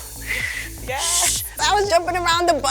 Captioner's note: imitates whistle